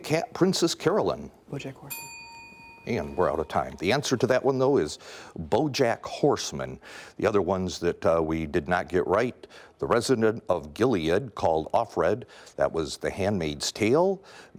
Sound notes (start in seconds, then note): 1.9 bell dings